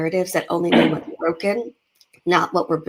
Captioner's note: speaks faintly